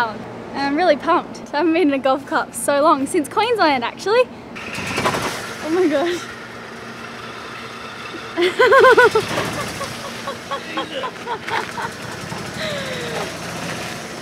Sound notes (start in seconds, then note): 8.3 laughs